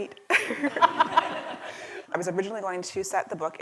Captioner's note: laughter